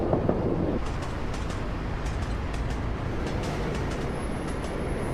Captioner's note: traffic roaring; train rumbling